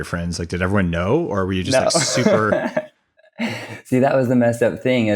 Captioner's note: laughs